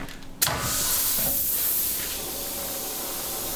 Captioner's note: gas hissing